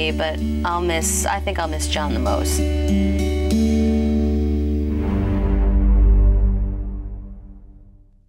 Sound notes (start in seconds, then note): 5.0 logo hums